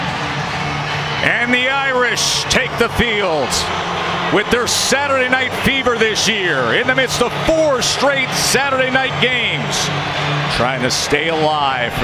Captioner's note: cheers and applause